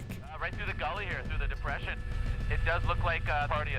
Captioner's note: voiceover